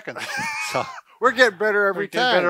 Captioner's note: giggles